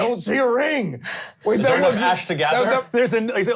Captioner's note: heavy breathing